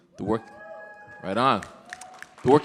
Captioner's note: audience cheering